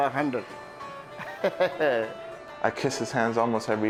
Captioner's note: laughs